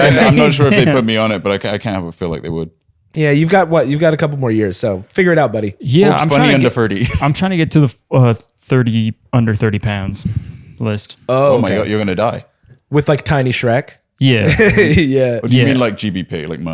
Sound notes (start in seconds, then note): 0.0 laughter; 14.4 laughs